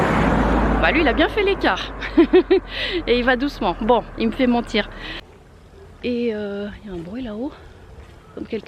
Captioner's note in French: rire